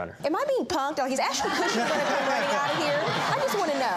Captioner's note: audience laughing